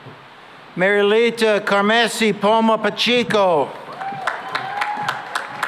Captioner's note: cheering and applause